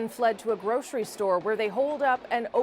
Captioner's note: gunshots